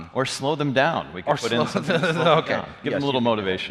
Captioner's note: laughs